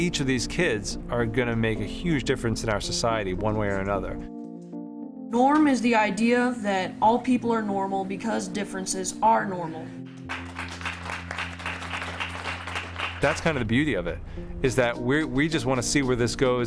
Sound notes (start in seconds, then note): 10.1 claps